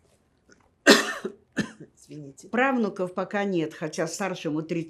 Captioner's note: coughing